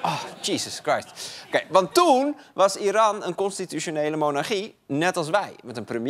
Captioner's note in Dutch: gelach